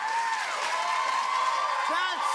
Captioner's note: cheers and applause